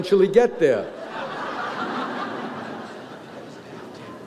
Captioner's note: audience laughs